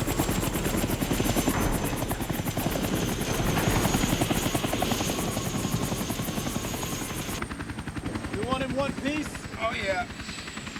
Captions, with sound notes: [Aircraft noise] You want in one piece. Oh, yeah.